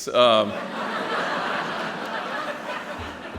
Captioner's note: laughter